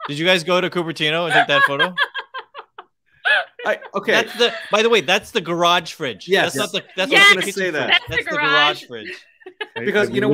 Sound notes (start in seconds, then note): 3.2 laughs